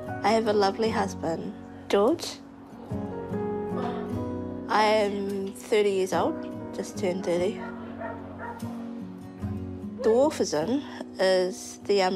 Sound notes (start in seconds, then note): 7.5 dog barks distantly